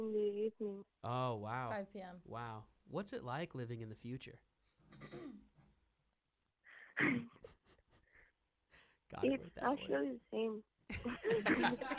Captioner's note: CALLER laughs